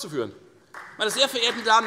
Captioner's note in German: Beifall Freie Demokraten, AfD und vereinzelt SPD